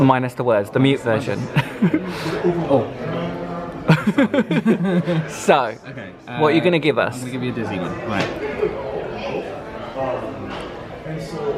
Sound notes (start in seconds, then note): 3.8 both laugh